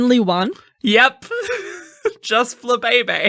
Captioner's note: laughing